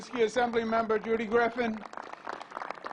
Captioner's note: applause